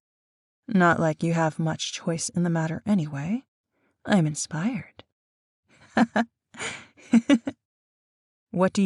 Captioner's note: laughs slightly